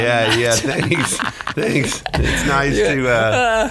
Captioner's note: laughing